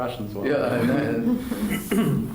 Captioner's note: laughter